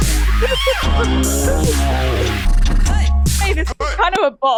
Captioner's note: laughter